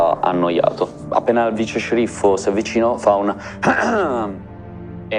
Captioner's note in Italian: Si schiarisce la gola